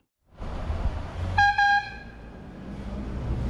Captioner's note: honk honk